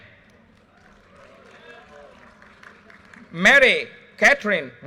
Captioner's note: audience cheers and applause